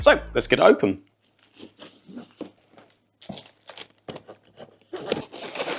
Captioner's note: plastic crinkling